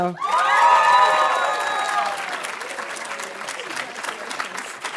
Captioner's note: audience cheering and applauding